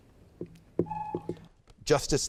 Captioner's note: timer buzzes